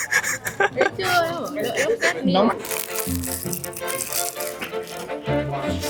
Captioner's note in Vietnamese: tiếng cười